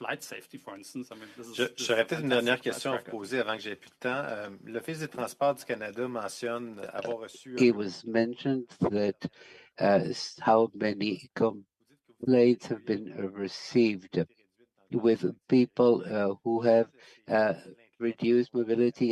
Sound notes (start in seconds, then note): 10.1 speaking French